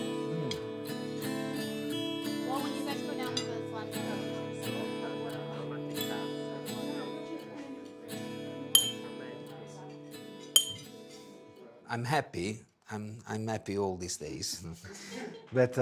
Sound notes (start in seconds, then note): 0.2 soft music; 8.9 glass clinking